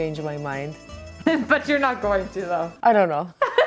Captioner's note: giggling